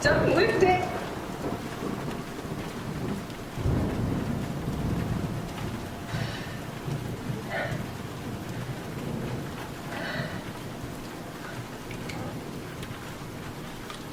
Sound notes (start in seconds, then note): 1.4 thunder cracks